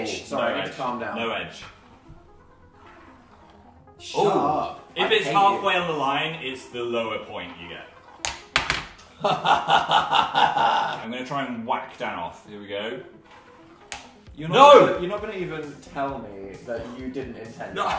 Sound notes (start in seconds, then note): 9.1 laughs; 17.7 laughs